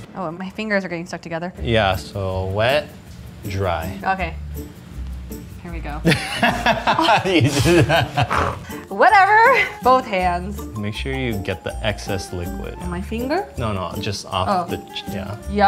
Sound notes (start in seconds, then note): 6.0 laughs